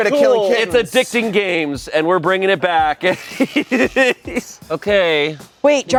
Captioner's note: laughs